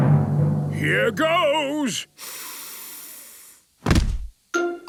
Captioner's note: dramatic drumming music; sniffs